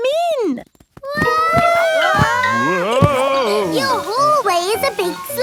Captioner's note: all yelling